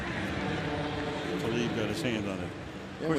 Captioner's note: pa announcement